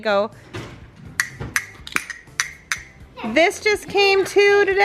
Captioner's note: toy clicks